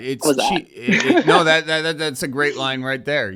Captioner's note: laughing